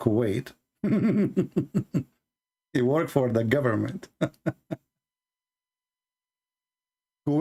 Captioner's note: Ketawa